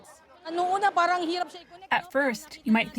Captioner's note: through translator